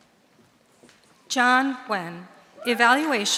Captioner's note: audience cheering